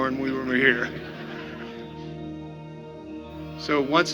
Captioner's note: audience laughing